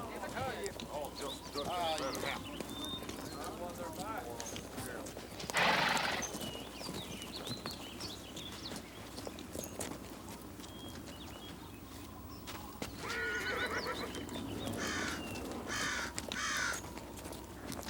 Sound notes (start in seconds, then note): 0.0 townsfolk chatter; 5.5 horse snorts; 10.3 wind whistles; 13.0 horse neighs; 14.7 birds squawk